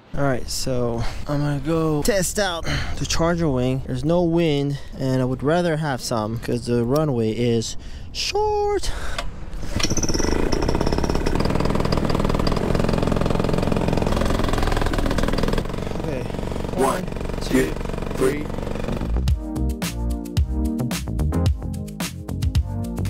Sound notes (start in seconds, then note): 10.0 engine revving; 19.0 upbeat electronic music